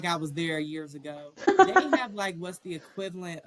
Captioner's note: laughter